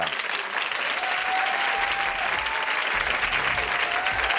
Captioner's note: audience cheering